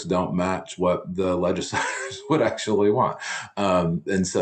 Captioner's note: chuckles